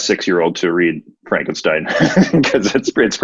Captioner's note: laughing